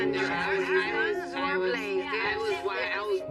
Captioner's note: indistinct chatter